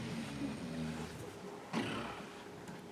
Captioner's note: snoring